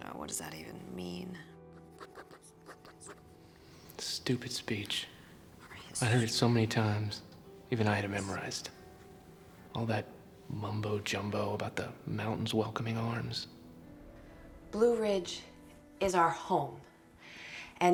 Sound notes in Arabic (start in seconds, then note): 1.8 خدش